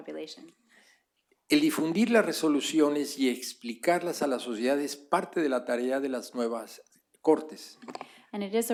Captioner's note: speaking spanish